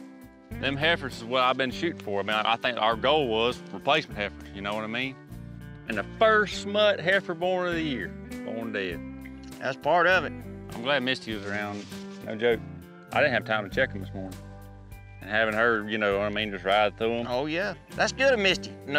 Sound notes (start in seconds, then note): none